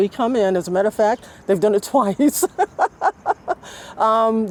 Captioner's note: laughing